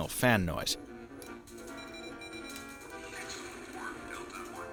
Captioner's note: video game sounds